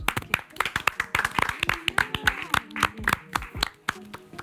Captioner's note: group applauds